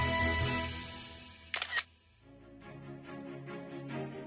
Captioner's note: camera shutter sound